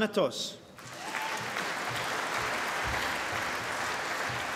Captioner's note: applause